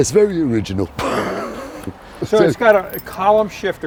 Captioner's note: laughing